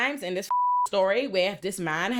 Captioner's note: beep